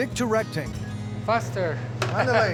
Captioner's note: laughter